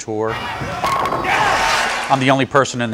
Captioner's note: pins knocking